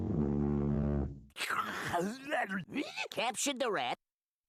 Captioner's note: salivating